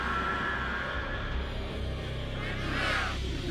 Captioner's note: aliens all talking excitedly